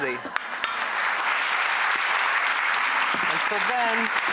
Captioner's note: applause